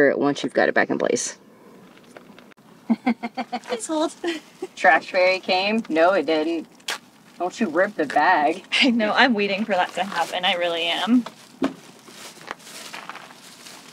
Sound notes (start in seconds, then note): 2.8 laughing